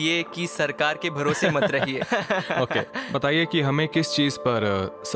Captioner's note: chuckles